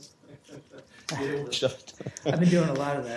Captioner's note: laughter